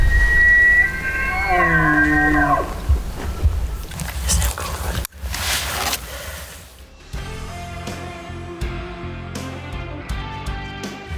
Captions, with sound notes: (elk bugling) (whispers) Is that cool or what? (gentle music continues)